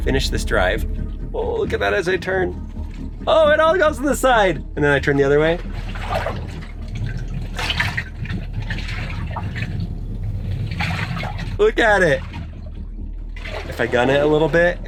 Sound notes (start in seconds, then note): 10.5 water bed burbles